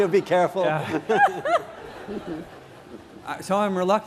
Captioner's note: laughter